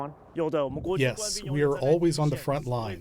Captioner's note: through translator